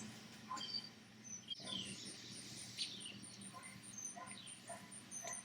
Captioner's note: birds chirping